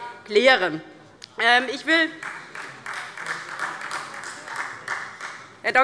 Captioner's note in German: Beifall Freie Demokraten